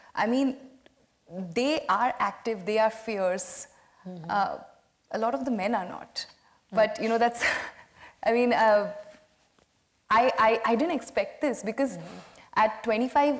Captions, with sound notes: I mean, they are active, they are fierce. A lot of the men are not. But, you know, that's, (laughs) I mean, I didn't expect this because at 25,